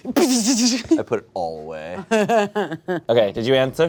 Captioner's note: chuckles